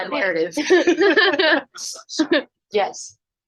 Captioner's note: laughs